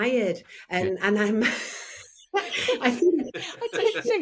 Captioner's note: person laughing